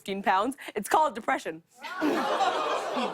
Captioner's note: audience groans